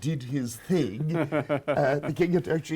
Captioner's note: laughs